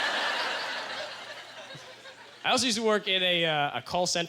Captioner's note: audience laughter